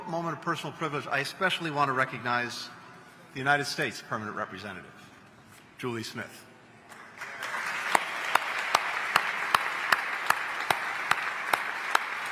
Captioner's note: applause